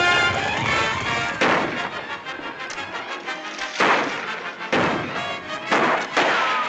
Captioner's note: tense music; gunshots